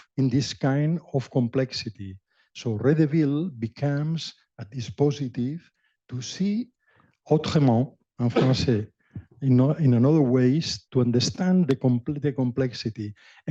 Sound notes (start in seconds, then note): 8.1 french